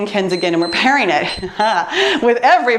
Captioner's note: timer beeps